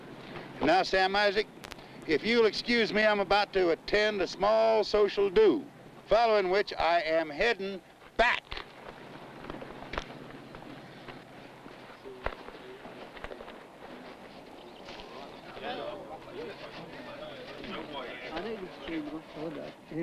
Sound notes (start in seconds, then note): 15.7 muffled chatting